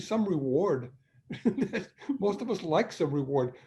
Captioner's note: laughing